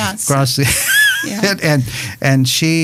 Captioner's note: laughing